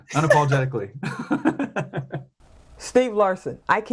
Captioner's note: laughs